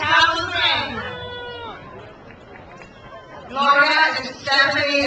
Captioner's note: crowd cheers